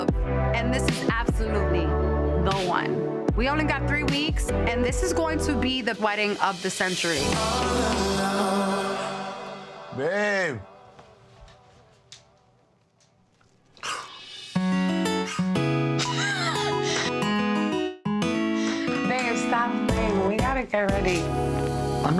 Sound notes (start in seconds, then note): 14.6 chill guitar music; 16.0 Erica laughs